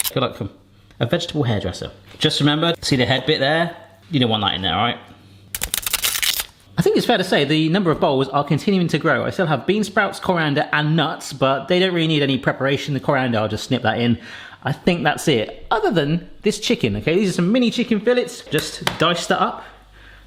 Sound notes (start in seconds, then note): 5.6 cutting